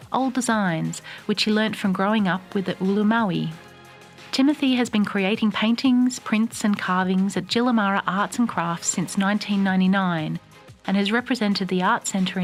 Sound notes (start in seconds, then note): 7.5 speaks indigineous language